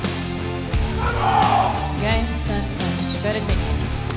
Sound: screams

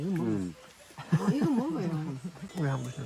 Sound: laughing

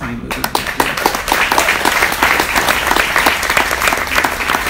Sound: audience applauds

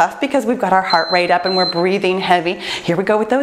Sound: timer beeps

